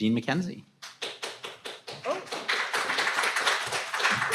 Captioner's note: audience applauding